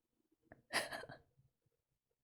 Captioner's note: laughs